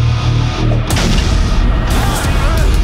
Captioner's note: blasting; dramatic rhythmic music continues